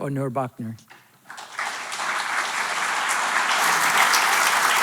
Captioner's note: audience clapping